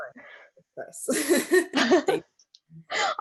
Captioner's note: giggles